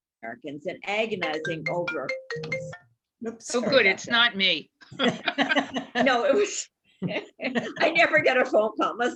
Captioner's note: phone ringing